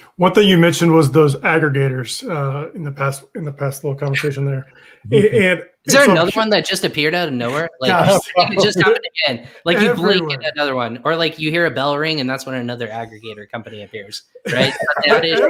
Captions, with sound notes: - One thing you mentioned was those aggregators in the past little conversation there. And - There was another one that just appeared out of nowhere. - Yeah. (laughs) - Like again, like you blink and another one or like you hear a bell ring and that's when another aggregator company appears, right?